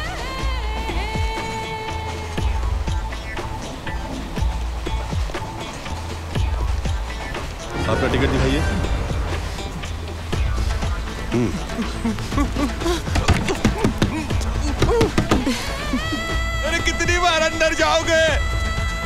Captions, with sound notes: Show your ticket. (Door knocking) (Chuckles) How many times are you going to go in?